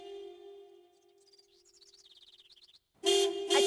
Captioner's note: birds - Chirping